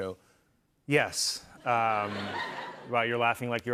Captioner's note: laughter